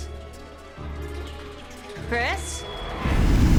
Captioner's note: ominous whispering; dramatic music